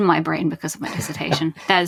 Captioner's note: chuckles